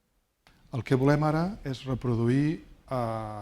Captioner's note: speaking spanish